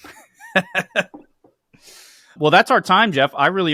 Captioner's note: laughs